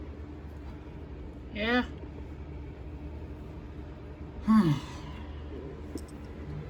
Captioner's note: sighs